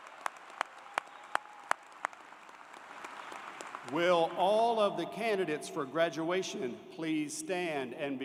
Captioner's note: applause